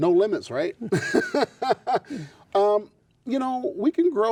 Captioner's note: laughs